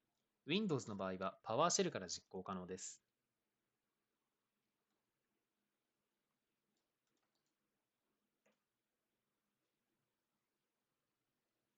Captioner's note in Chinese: 十七秒停顿